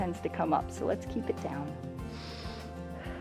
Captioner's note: inhales